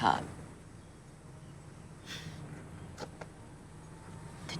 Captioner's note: chuckles